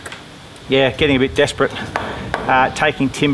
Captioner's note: hammering